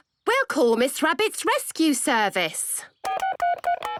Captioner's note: phone beeping